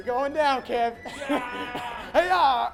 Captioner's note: yelling playfully